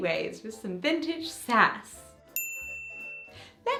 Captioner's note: ding